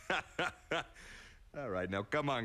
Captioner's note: chuckles